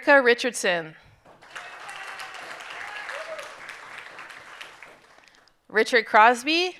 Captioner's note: audience cheering and applauding